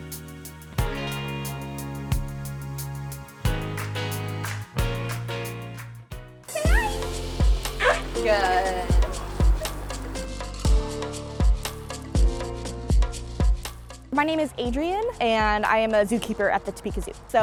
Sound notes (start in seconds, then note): 9.3 elephant barks